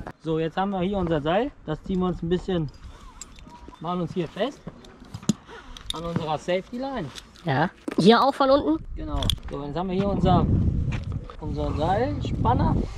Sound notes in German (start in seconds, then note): 4.6 klick